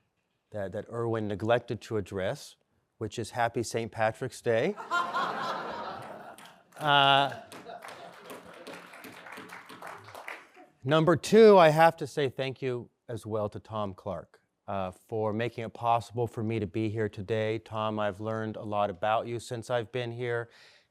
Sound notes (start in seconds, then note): 4.7 laughter